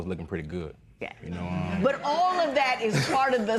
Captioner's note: laughter